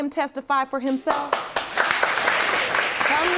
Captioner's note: audience applauding